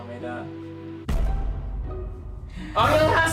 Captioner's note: speaks in Korean; comical music; explosion; speaks in Korean